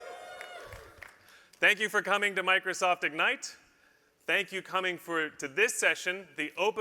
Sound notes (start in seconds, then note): 0.0 cheering